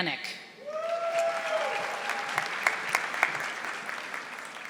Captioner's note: audience applauding